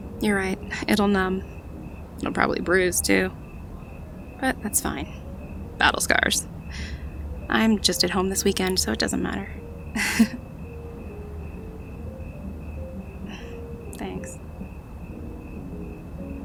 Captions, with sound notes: You’re right - it’ll numb…it’ll probably bruise too, but that’s fine. Battle scars. I'm just at home this weekend so it doesn't matter. [awkward laughter] [quietly] Thanks.